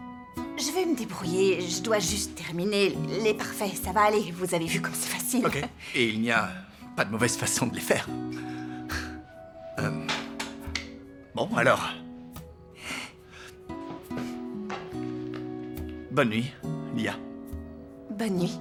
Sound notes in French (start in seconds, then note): 8.3 soupirs